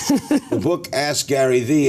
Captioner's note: laughter